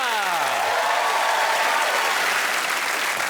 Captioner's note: cheers and applause